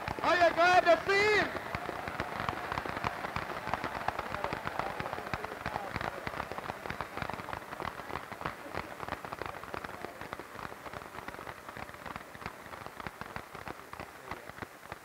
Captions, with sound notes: Are you glad to see him? [more applause]